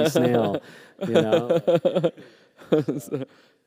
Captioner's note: laughter